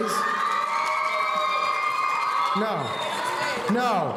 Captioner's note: audience cheering